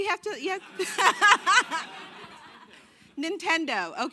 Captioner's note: laughing